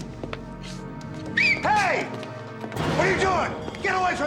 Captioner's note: whistles